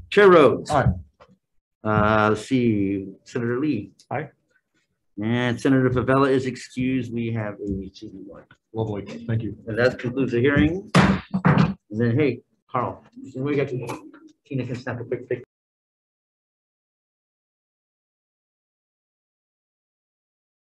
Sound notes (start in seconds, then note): 10.5 gavel banging